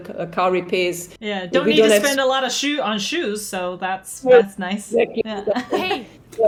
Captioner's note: laugh